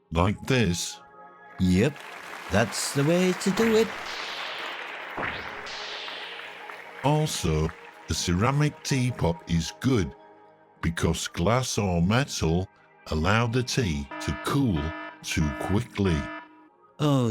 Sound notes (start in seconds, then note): 2.1 hands clapping; 4.2 words whooshing; 15.6 alarm siren ringing